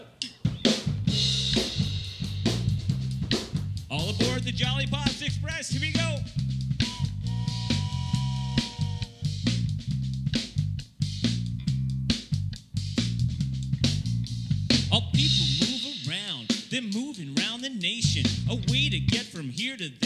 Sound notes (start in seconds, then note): 0.3 upbeat music; 6.7 whistle blows